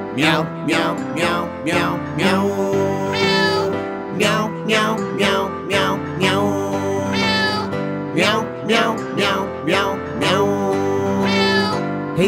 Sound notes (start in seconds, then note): 3.1 cat mewling; 7.1 cat mewling; 11.2 cat mewling